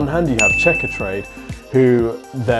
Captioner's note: bell chimes